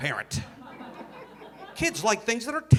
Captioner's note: audience laughing